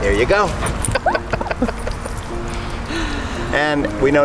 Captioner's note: laughter